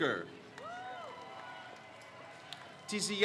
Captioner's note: crowd cheers